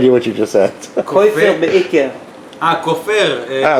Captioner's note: in Yiddish